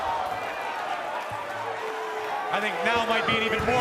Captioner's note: cheers and applause